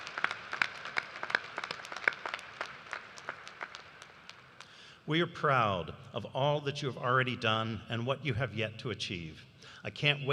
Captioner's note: applause